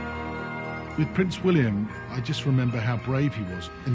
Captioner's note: voiceover